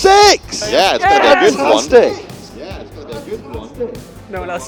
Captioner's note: cheers loudly